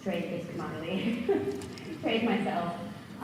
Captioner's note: laughs